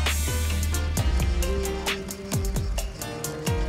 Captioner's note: grashoppers chirping in the background